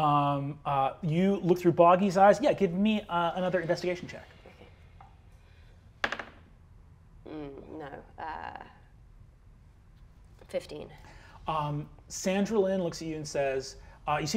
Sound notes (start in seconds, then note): 6.0 die taps table